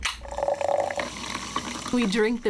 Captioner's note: loud fizzing